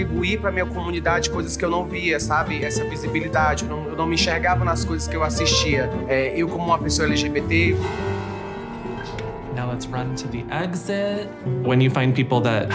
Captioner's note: speaking foreign language